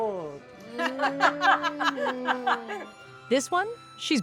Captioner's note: laughter